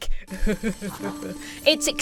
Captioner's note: laughs in delight